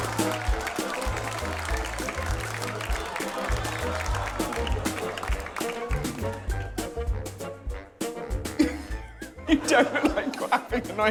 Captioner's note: applause